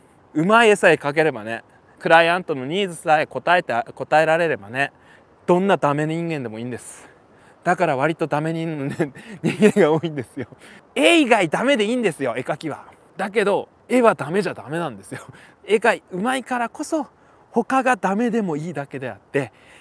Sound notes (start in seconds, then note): 8.8 laughs